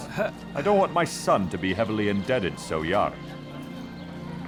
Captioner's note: gasps